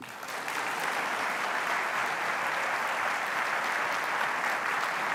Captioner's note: applause